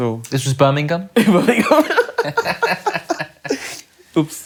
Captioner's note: laughs